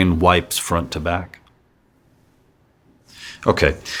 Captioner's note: silence